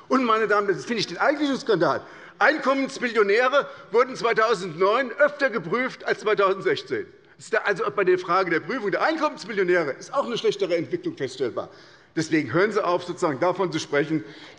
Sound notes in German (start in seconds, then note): none